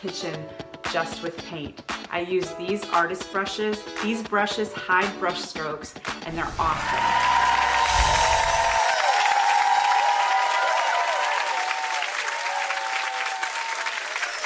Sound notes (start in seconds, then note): 6.6 cheers; 6.7 applause